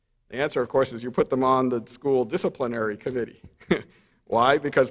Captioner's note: chuckles